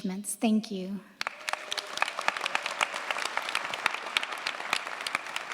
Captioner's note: cheers, applause